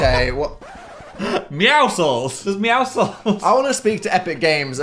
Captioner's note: Phil laughs; record scratches